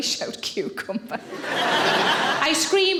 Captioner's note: audience laughing